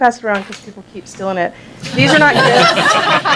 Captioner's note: laughter